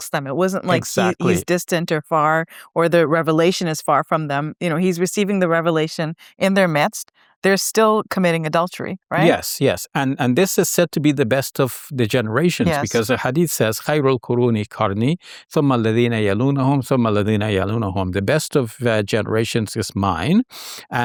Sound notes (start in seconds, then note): 13.9 quotes Quran in Arabic